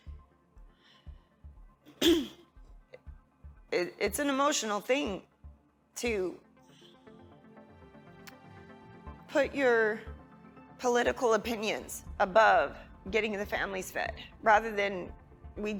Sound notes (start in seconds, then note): 1.9 clears throat